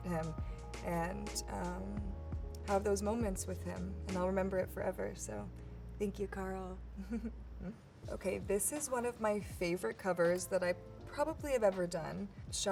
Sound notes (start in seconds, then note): 7.0 chuckles